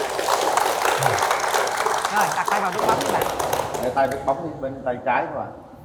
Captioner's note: applause